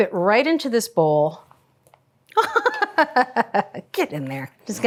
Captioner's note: Julia laughing